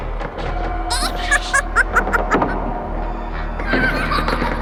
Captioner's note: laughter